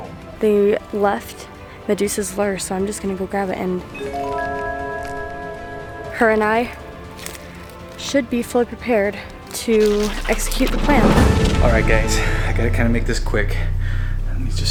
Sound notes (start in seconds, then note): 5.3 tone chimes